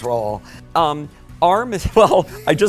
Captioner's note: laughing